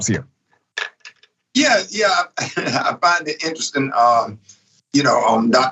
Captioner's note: laugh